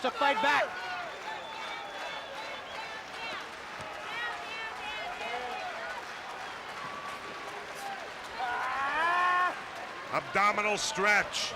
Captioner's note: crowd cheering